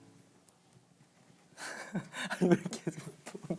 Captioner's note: laughing